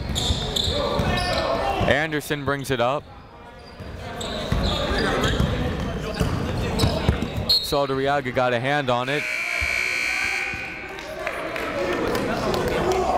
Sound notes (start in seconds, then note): 4.2 chatter; 7.6 whistle